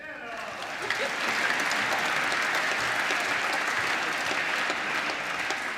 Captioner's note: applause